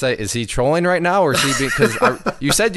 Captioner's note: laughs